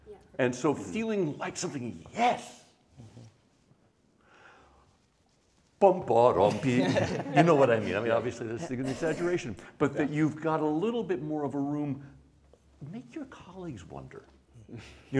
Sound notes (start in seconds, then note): 5.6 singing the cello part; 6.5 laughter